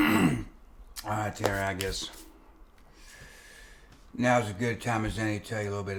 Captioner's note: clears throat